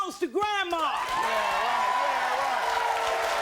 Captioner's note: applauding